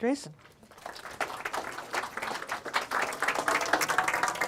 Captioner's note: audience clapping